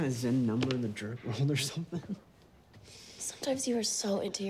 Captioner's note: chuckles